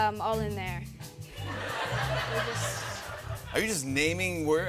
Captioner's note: laughter